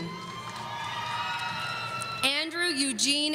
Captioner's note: audience cheering